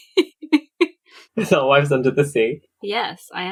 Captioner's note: laughing; laughs